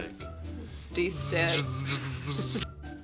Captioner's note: electrical surge noise